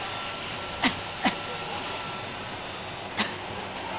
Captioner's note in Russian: начинает кашлять